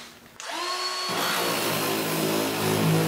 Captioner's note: saw noise